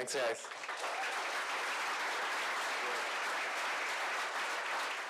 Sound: clapping

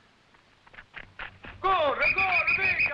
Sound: officers shouting in foreign language; whistle blowing

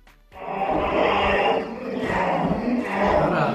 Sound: monster noises

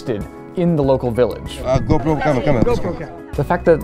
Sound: speaking Greek

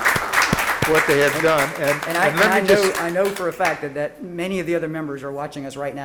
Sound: applause

